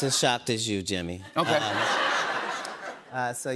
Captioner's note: laughter